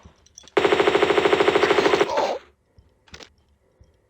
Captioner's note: bratatatatata